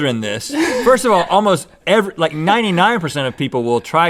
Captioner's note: Link and crew laugh